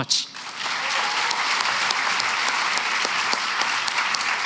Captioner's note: applause